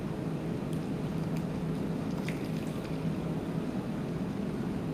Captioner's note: liquid pouring